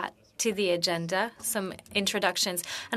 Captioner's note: speaking French